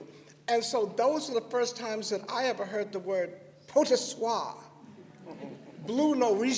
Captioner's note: laughter